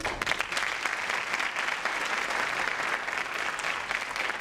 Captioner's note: crowd applauds